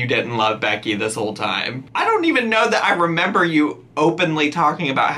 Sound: none

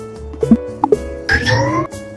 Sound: clicking that sounds Like popping noises

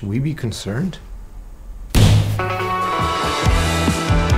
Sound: bangs on wall

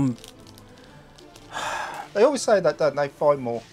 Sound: sighs

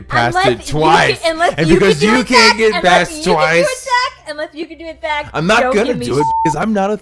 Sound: beep

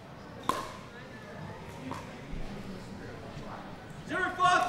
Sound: ball bouncing

